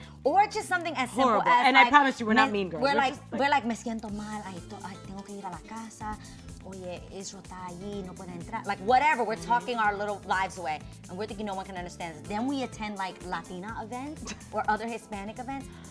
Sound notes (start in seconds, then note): 3.9 speaking Spanish